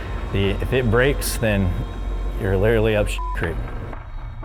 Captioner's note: beep